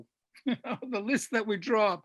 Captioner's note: laughs